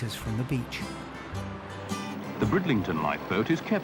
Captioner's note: traffic droning